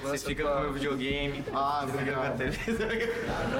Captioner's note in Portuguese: risos